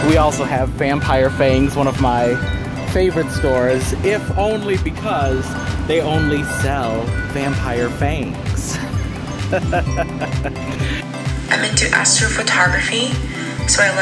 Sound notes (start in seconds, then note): 8.4 laughs